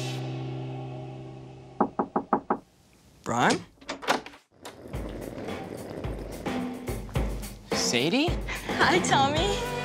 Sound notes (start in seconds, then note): 1.8 knocking on door; 6.4 upbeat drum music